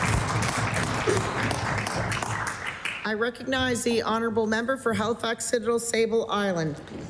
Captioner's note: applause